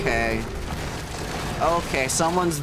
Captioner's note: crashing